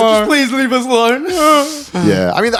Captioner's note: whining